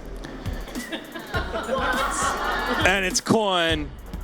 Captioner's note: laughing